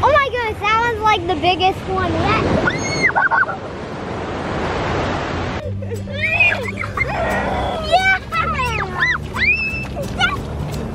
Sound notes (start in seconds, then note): 2.6 children scream; 7.9 children laugh